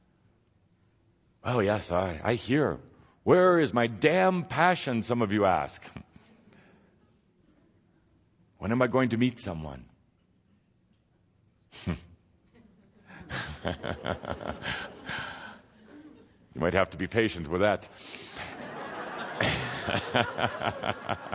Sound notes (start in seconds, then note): 12.5 Kuthumi laughs; 18.2 audience laughter and Kuthumi chuckling